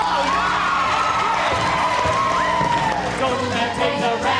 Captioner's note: cheering